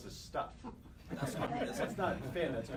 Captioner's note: laughter